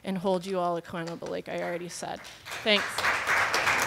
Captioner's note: applause